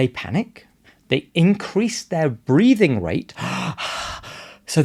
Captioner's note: pants